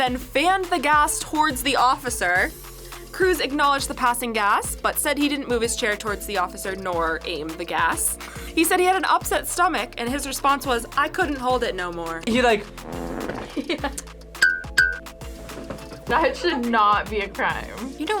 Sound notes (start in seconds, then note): 12.5 fart squelches; 13.2 laughs